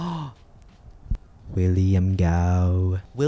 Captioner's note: gasps